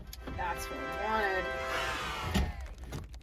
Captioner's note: yay - cheers and applause